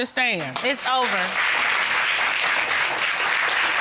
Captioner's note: applause